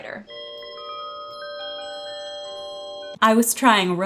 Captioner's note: bell dings